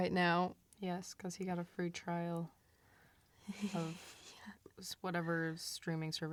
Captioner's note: laughs